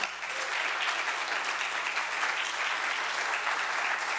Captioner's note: audience applauding